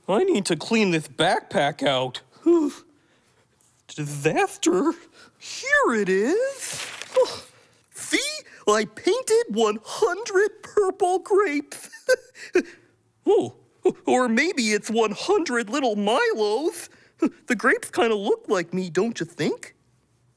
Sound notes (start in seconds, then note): 12.1 laughs